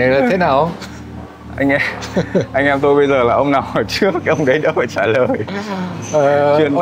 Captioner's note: chuckle